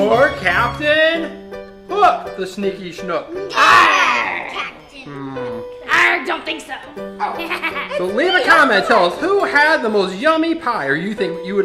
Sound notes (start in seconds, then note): 7.2 laughing